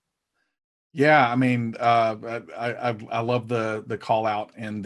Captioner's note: stuttering